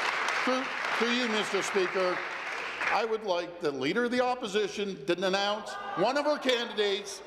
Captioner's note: applause